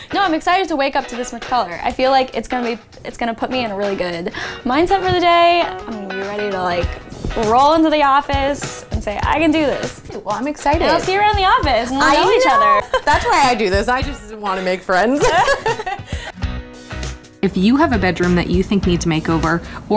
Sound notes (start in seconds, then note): 15.1 laughs